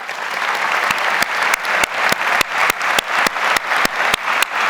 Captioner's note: audience applauds